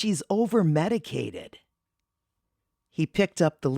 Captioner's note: pause